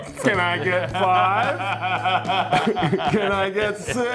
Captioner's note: Billy laughs